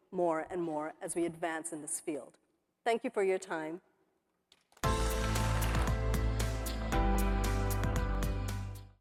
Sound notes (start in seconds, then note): 4.8 upbeat music; 5.2 audience applauding